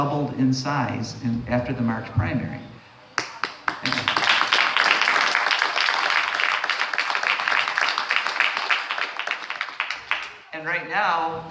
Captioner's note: applause